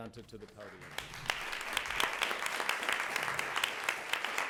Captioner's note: applause